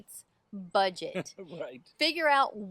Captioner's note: laughs